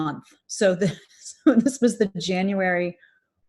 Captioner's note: laughs